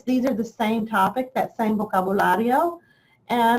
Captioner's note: speaks in foreign language